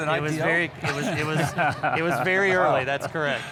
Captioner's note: panelists laughing